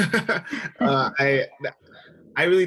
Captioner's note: laughing